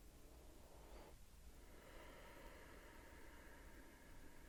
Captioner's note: breathing deeply